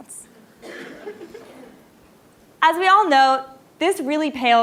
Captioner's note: laugh